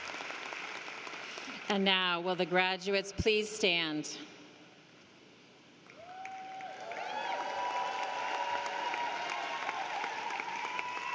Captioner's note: applause